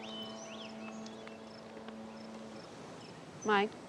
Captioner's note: birdsong; ship's horn blowing in distance